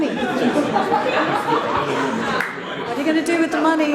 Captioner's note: audience laughs